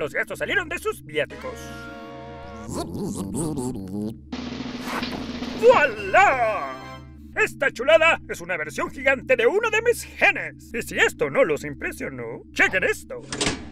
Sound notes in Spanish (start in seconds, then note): 2.9 Zumban molestos; 4.3 Redoble de tambor